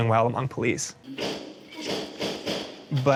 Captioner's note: gun firing